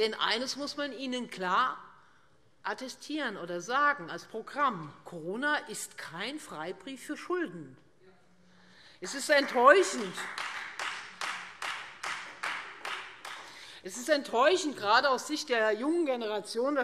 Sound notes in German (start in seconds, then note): 9.0 Beifall Freie Demokraten